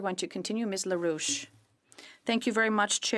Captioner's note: speaking French